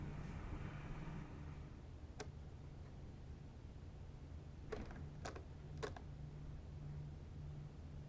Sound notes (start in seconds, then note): 2.2 clicking